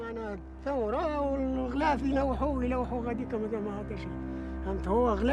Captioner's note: speaking in foreign language